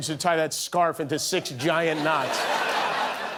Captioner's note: laughter